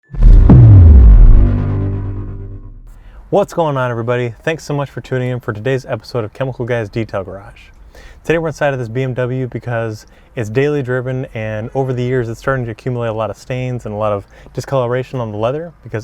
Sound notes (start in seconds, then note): 0.0 logo whooshing